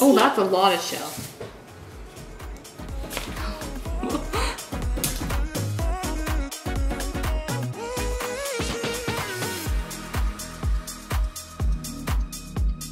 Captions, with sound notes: Ooh, that's a lot of shell. (laughs) (upbeat music)